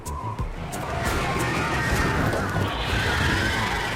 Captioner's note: dragon roars